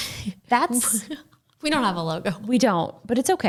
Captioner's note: chuckles